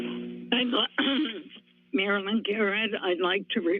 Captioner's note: clears throat